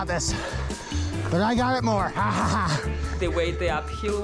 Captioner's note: laughs